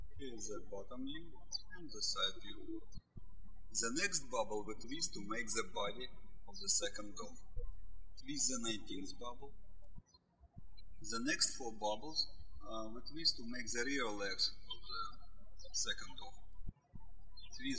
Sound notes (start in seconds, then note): 0.0 birds chirping; 10.6 birds chirping